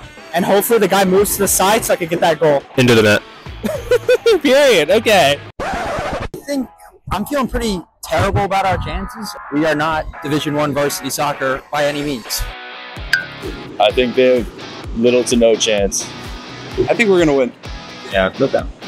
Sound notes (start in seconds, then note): 3.6 laughs; 5.6 record-scratch